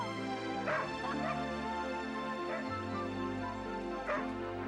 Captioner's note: Nero barking